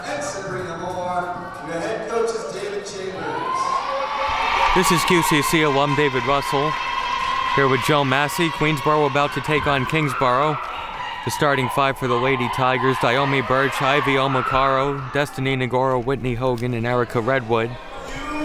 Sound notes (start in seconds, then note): 4.1 cheering